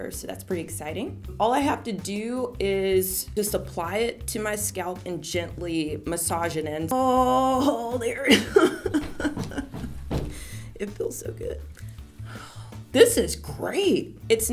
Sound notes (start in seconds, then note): 8.3 laughs; 8.4 foot stomping; 12.3 sigh